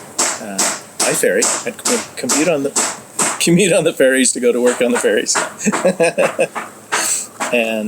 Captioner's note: chuckles; laughing